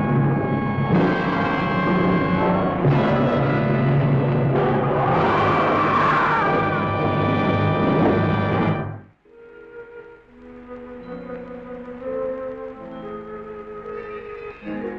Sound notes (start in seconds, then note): 2.0 creature roaring; 6.2 soft instrumental music